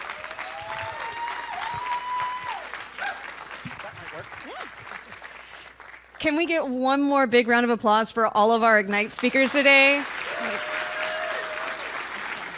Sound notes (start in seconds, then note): 9.0 applause and cheers